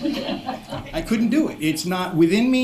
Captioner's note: laughter